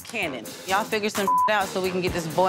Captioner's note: beep